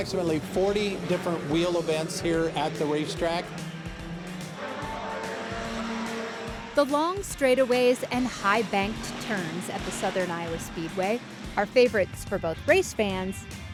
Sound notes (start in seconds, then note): 4.0 engine running